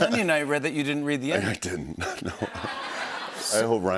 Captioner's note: laughter